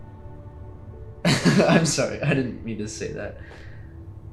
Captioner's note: laughs